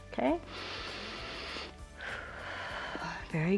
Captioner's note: inhales and exhales